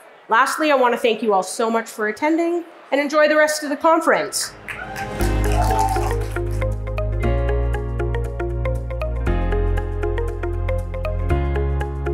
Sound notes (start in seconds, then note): 4.4 soft upbeat music; 4.6 audience applauding